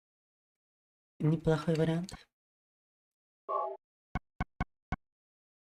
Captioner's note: speaking in foreign language